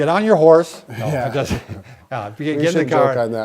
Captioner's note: laugh